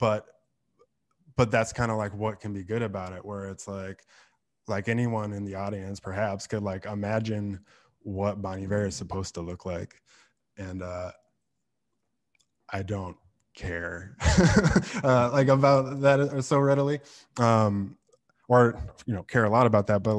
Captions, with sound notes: But that's like what can be good about it. Where it's like anyone in the audience perhaps could imagine what Bon Iver is supposed to look like. And I don't care (laughs) about that so readily or care a lot about that.